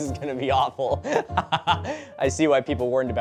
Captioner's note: giggling; laughing